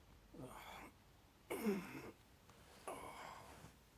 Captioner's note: Dan groaning